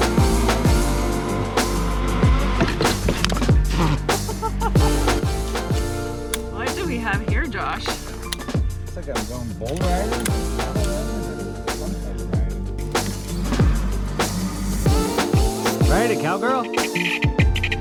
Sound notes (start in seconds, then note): 4.2 laughs; 11.4 chill music